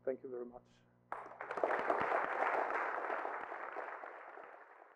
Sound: applause

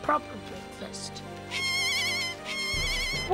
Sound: bird squawking

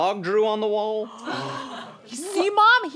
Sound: gasping

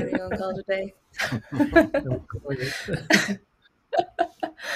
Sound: laughs

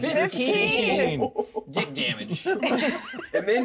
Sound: speaker laughs; laughs

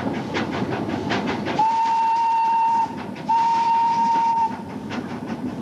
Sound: steam whistle

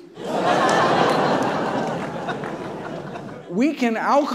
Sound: audience laughs

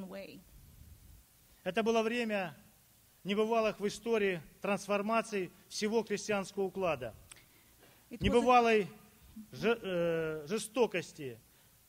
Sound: speaking Russian

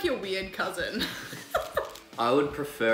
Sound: laughs

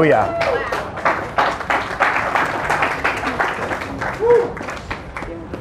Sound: applause

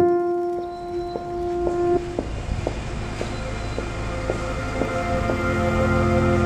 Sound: city traffic; heels clicking on sidewalk

